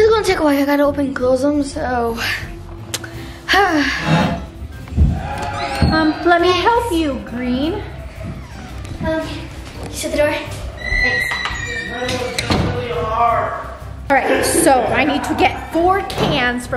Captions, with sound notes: This is gonna take a while, I gotta open and close them. So... (sighing) - Let me help you Green. - Thanks. - Okay, shut the door. (door closing) - Alright, so I need to get four cans